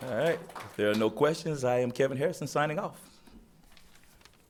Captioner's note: applause